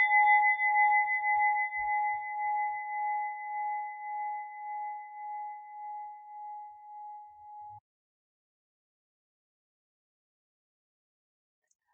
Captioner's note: bell chiming